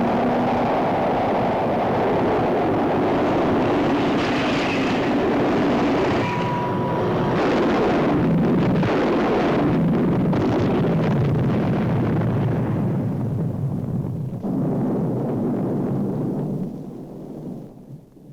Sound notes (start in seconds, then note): 7.4 explosion; 14.4 loud rumbling